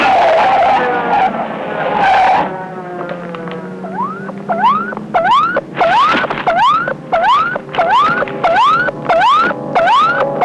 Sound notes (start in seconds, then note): 0.2 tires squealing; 3.8 electronic beeping; 5.1 dramatic music